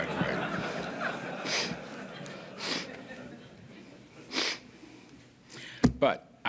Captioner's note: laughter